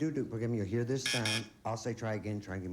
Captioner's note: buzz buzz